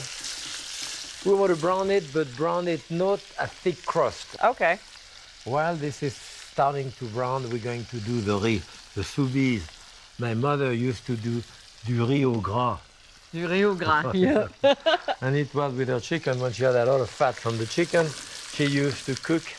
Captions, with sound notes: We want to brown it, but brown it not a thick crust. -Okay. -While this is starting to brown, we're going to do the riz -- the soubise. My mother used to do du riz au gras. -Du riz au gras. Yeah. [ Laughs ] -And it was with her chicken, when she had a lot of fat from the chicken,